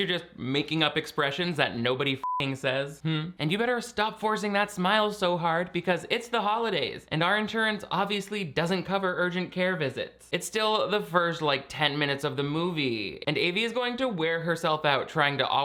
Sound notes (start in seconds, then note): 2.2 beep